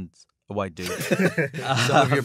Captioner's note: laughter